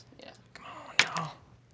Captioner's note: dice clacking